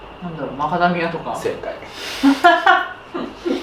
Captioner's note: laughter